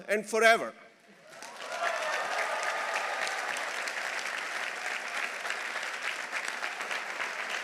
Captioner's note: audience applauding; audience cheering